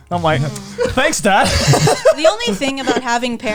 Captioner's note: laughing